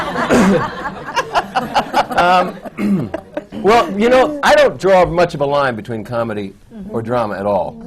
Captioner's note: laughter